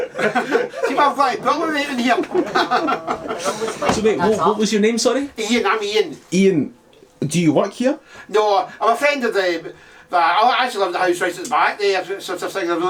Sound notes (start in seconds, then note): 1.6 laughs